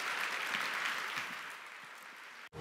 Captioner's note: applause